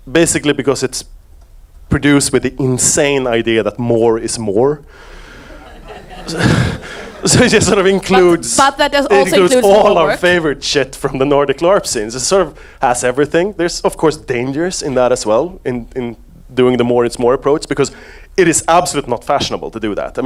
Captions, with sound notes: Basically, because it's produced with the insane idea that more is more. (audience laughs) So it just sort of includes, it includes all our favorite shit from the Nordic LARP scenes. It's sort of has everything. There's of course, dangerous in that as well in doing the more is more approach because it is absolute not fashionable to do that.